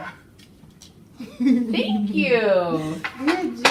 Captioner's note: laughs